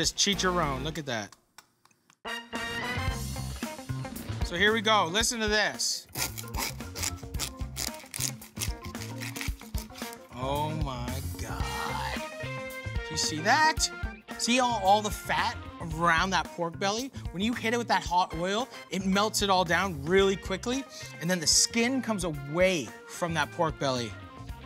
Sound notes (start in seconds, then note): 6.1 crackling